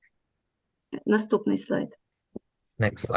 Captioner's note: foreign Language